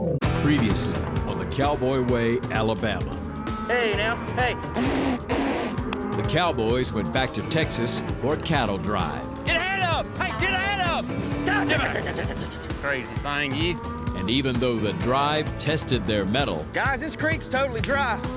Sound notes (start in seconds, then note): 4.6 blowing; 11.4 shouting